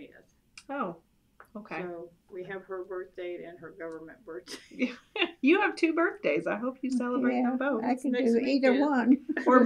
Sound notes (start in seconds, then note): 4.5 laughter